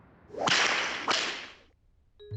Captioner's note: snap, snap